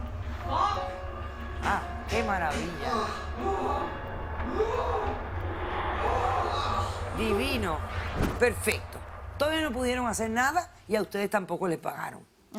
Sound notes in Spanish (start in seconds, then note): 3.6 Exclamaciones en el video